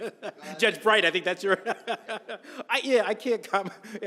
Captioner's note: laughs